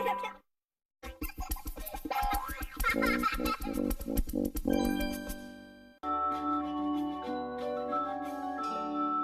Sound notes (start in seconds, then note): 1.0 kid laughing as music plays